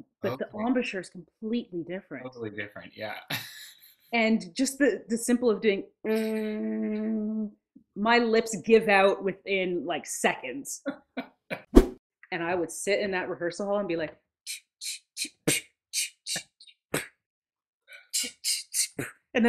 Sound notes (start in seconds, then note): 3.0 laughs; 6.1 hums one one; 11.0 laughs; 11.5 whoosh; 14.5 imitates drum kit sounds